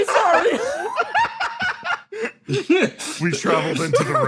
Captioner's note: laughs